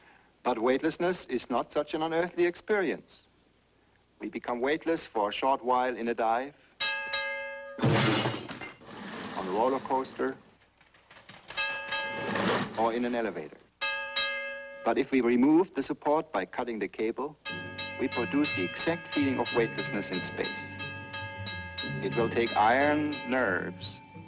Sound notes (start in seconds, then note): 6.7 water splashing; 6.8 dinging; 11.5 dinging; 14.1 dinging; 17.4 bell dinging